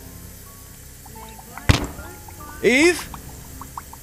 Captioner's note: loud Thud